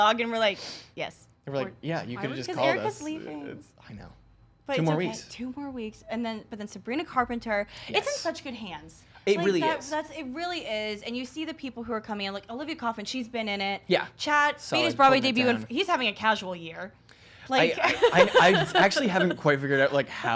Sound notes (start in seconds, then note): 17.8 laughter